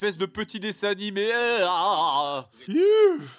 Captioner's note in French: vomissures imitées à la bouche